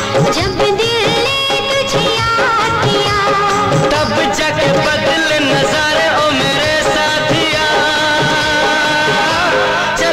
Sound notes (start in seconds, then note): none